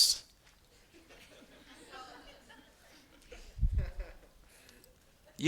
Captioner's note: students laughing